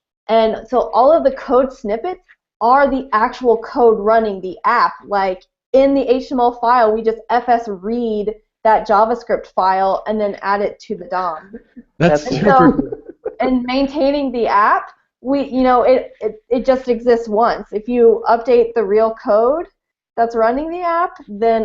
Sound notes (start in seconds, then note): 11.4 laughing